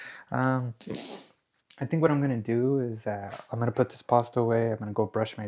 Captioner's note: snorts